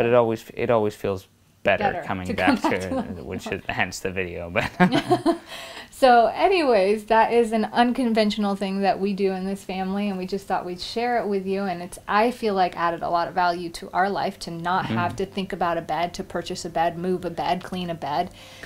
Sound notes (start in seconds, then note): 5.2 laughing